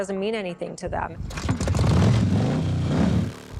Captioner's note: motorcycle engine starts